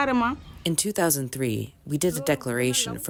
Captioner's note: through translator